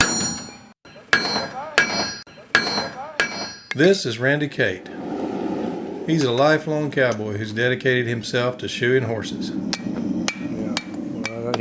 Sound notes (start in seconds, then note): 0.1 metal clanking; 4.7 fire burning; 10.1 metal clanking